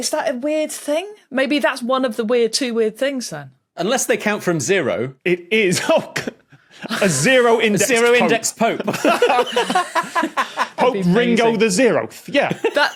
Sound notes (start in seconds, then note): 9.4 group laughing; 12.5 giggles